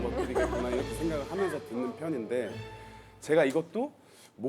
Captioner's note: failing to hold back a laugh